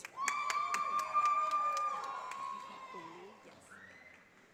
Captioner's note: audience applauding